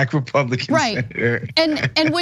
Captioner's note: laugh